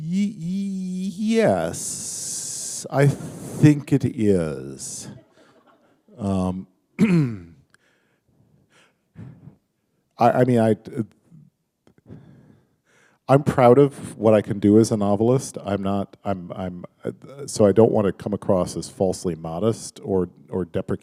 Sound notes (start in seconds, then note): 6.7 chuckle